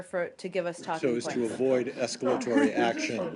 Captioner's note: laughter